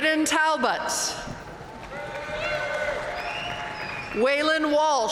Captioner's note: audience cheering and applauding